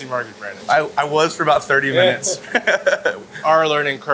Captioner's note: chuckles